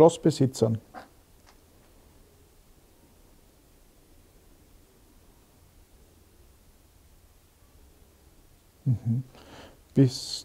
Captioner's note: silence in the background